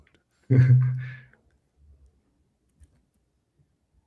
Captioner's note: laughs